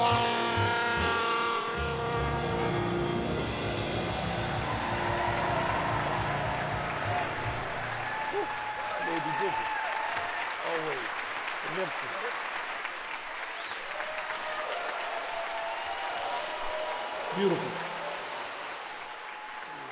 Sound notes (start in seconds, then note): 4.0 audience cheering; 7.5 applause